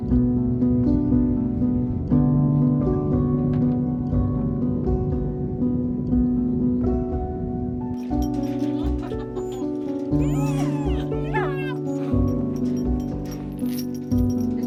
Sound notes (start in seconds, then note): 0.2 gentle dreamy music; 10.2 puppies whining